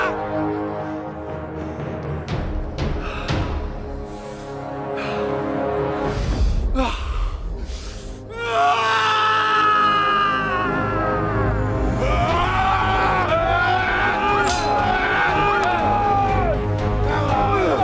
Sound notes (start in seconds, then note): 0.8 dramatic music; 3.2 exhaling; 8.5 shouting; 11.1 dramatic music; 12.4 both shouting; 14.4 swords clanging; 17.6 dramatic music